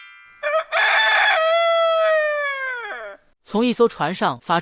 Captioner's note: crowing of cocks